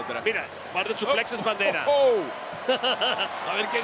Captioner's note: laugh